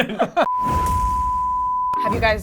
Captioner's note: beep